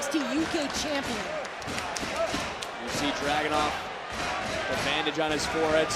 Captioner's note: applause